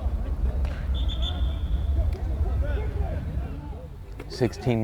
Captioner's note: whistle